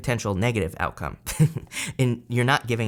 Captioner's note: laughs